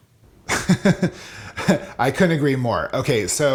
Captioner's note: laughs